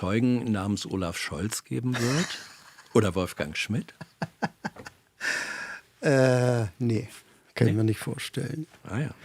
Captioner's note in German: gelächter